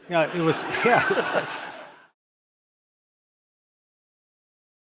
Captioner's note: audience laughing